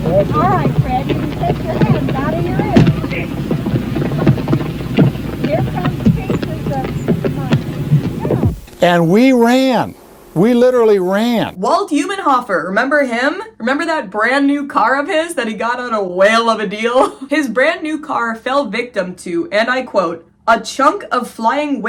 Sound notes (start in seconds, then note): 0.0 constant popping and cracking sounds; 0.0 sound of crowd exclaiming in shock; 3.6 popping and cracks intensify